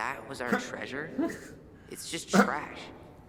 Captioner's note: awkward laughing